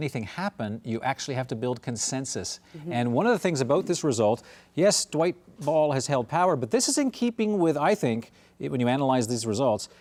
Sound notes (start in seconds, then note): none